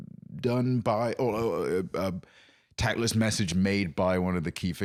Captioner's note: stammering